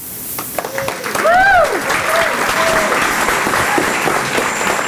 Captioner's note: audience applauding